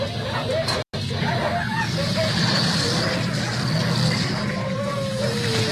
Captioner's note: dogs Barking; dogs Barking and Whining; dogs Barking